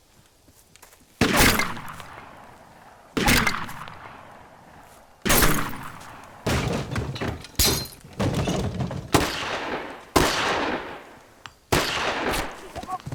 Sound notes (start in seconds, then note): 1.2 gun shot; 3.2 gun shot; 6.5 breaks glass; 9.9 gun shot; 12.9 groaning in pain